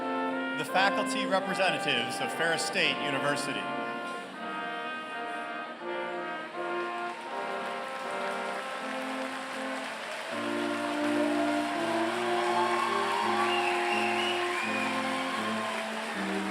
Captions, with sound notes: The faculty representatives of Ferris State University. [APPLAUSE]